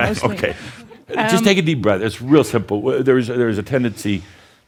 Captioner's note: chuckles